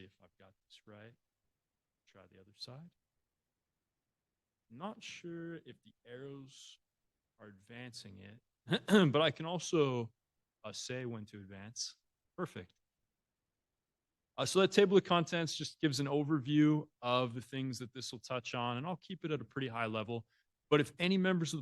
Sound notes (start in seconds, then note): 8.7 ahem